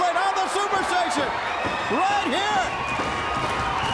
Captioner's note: crowd cheering